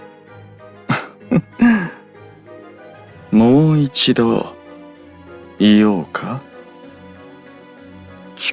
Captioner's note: laugh